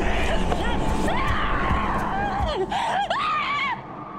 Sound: screaming

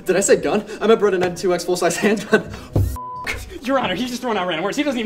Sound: beep

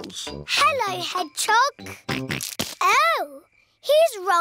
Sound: snorts

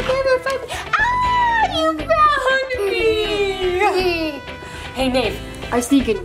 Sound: giggles

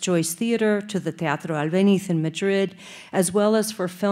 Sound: speaking Spanish

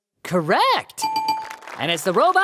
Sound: bell

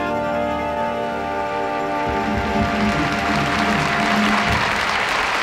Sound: audience applauding

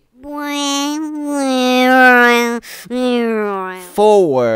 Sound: funny motor sound goes

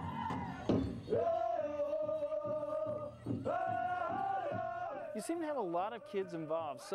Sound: chanting

